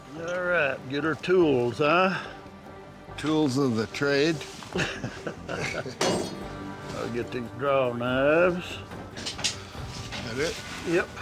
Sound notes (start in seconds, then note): 4.7 laughs